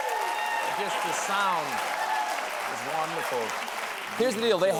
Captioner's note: applause